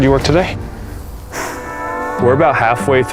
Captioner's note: sighs